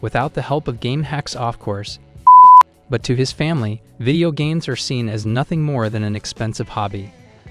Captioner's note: beep